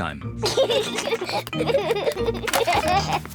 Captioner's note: both giggle